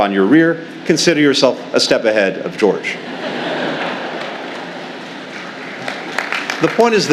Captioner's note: laughter and applause